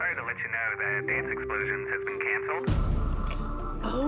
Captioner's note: on phone